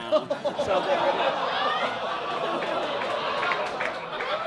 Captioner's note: audience laughs